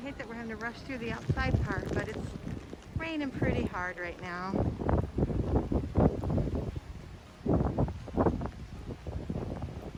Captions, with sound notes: Hate that we're having to rush through the outside part but it's raining pretty hard right now. (rain pouring)